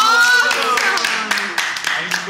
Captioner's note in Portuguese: Palmas